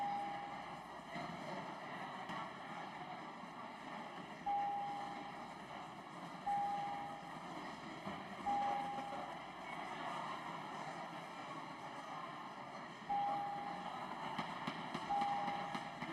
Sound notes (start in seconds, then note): none